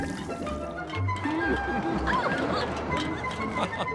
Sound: laughing

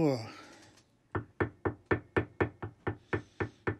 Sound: hammer tapping

